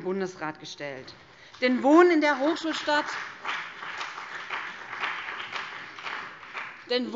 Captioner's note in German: Beifall BÜNDNIS 90/DIE GRÜNEN